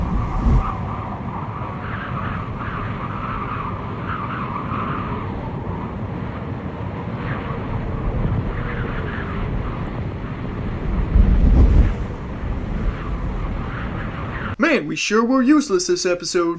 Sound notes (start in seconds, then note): 11.0 the home stretch of wind noises!